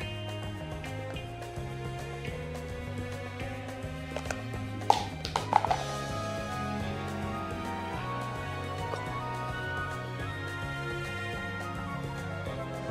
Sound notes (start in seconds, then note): 4.9 plastic plate clinks